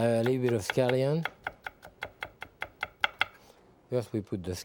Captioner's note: knife tapping